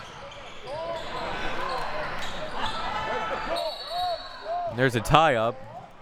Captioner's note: audience chattering